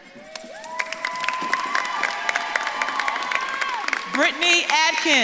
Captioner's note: audience claps and cheers